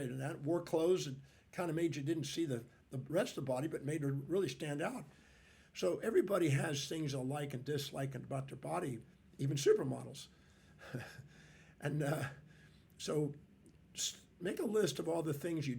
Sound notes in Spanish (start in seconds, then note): 10.8 risas